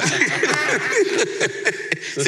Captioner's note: laughs